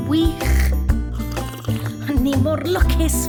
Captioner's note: slurping